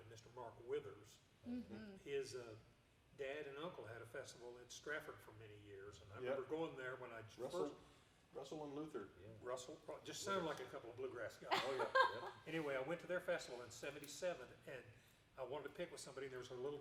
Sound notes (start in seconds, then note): 11.5 laughing